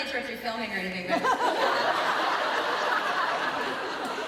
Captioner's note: crowd laughs